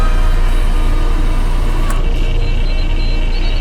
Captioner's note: machine whirring